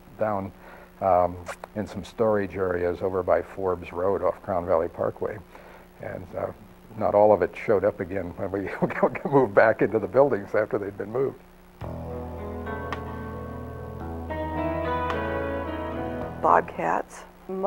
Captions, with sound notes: And they stored most of our equipment down in some storage areas over by Forbes Road off of Crown Valley Parkway. And not all of it showed up again when we (chuckles) could move back into the buildings after they'd been moved. (soft country music)